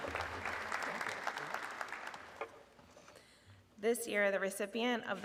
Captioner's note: audience clapping